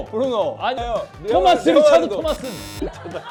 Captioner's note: ongoing interference